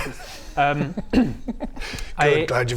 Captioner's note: naughty giggles